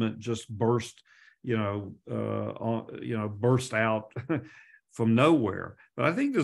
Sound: chuckles

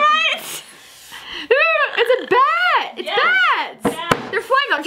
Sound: trills

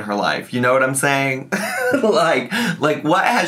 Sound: chuckles

